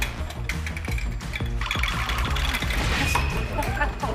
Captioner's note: rattle